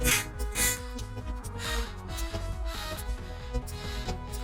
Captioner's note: laughs tearfully; panting softly